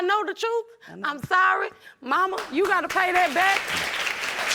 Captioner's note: audience applauding